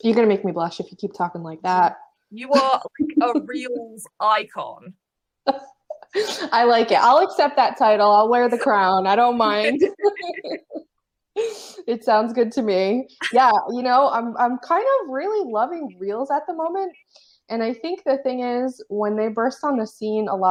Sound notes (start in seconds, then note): 5.6 laughs; 10.9 laughs